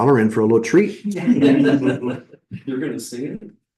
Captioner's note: laughter